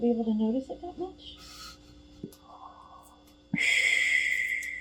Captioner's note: breathes heavily